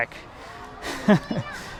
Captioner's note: laughs